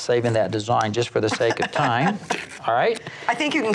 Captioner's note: laughs